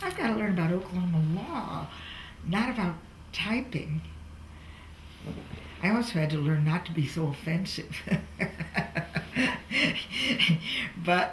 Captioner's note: laughs